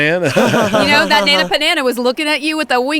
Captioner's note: laughs